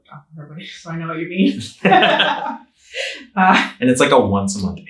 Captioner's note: both laughing